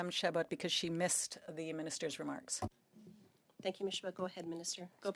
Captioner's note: speaking French